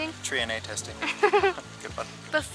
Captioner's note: laughs